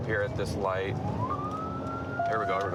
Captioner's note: sirens